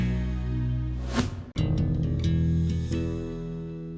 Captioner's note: whooshing